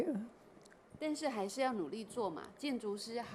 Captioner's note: Mandarin